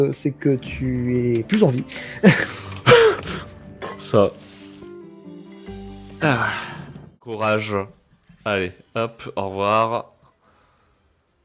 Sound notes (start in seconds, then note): 2.2 small laugh